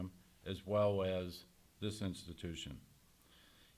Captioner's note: none